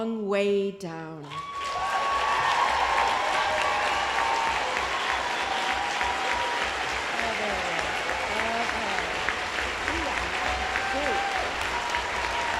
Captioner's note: applause